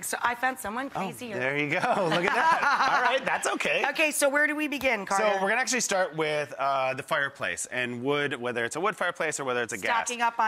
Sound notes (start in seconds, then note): 1.9 laughs